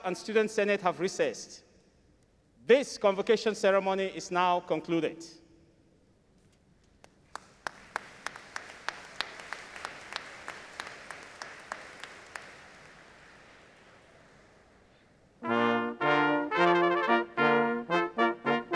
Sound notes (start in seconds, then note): 7.2 audience applauding; 15.3 stately music